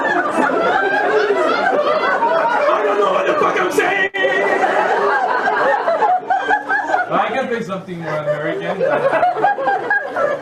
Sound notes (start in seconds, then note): 2.9 yelling musically; 5.4 audience laughs